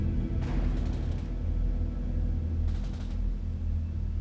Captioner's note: gun firing